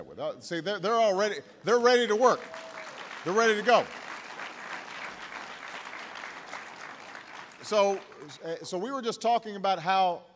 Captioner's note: applause